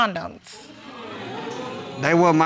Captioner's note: crowd wooing